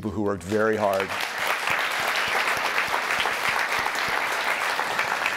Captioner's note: audience applauding